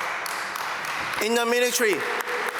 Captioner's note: applause